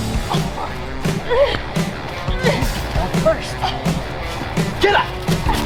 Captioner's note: Kristen groans